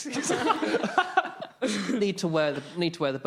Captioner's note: laughing